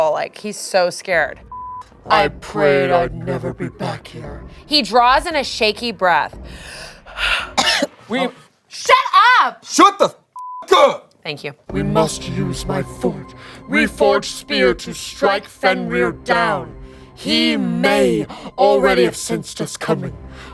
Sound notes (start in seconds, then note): 7.3 coughing; 10.4 beep